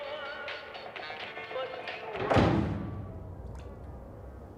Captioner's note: loud slamming